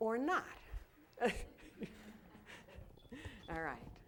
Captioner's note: laughter